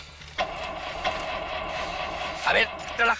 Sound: engine

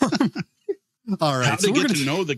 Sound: laughing

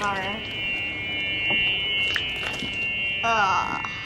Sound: squish

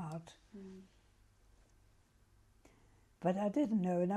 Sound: pauses for 3 seconds

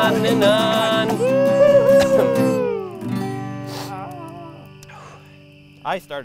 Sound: all whooping

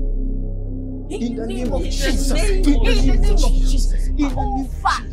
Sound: intense prayers

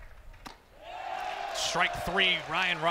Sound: ball hitting glove

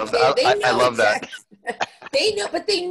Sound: laughs

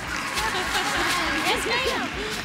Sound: girls clapping

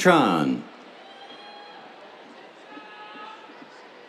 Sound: cheers

